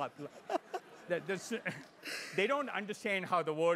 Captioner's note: laugh